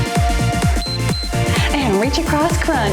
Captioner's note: timer beeps